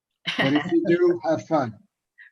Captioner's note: laughs